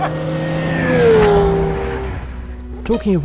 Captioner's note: laughs; engine roaring